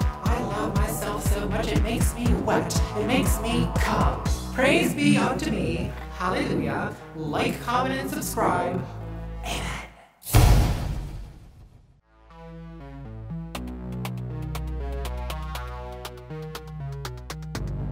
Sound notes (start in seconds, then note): 10.4 soft bang; 12.7 thoughtful music